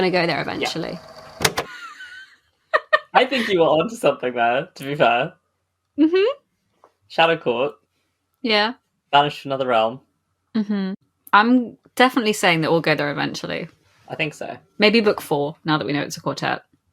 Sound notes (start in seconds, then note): 0.4 tape recorder clicks off; 2.8 laughs